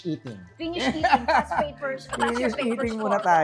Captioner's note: laughs